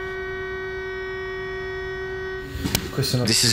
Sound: alarm blaring

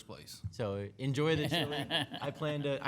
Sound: laughing

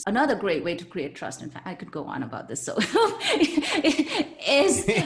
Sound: chuckles

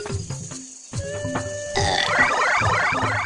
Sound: burp

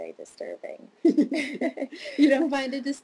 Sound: laughs

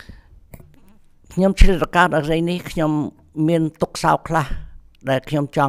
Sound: speaks in Khmer language

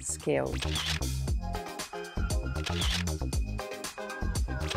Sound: camera clicking

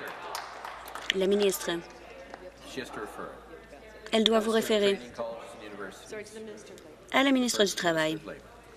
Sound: applause

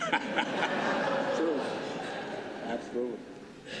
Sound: laughter

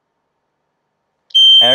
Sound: squeal

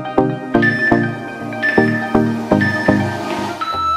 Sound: alarm beeping

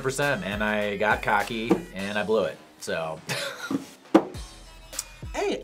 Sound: laughs

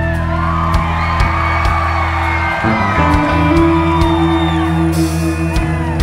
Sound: applause

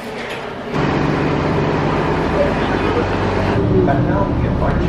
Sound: bus engine droning

